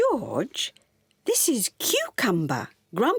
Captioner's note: none